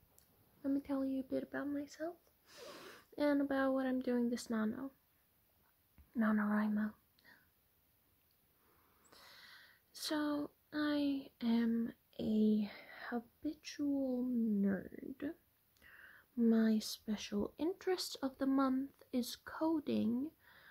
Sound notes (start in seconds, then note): 7.2 sarcastic shocked gasp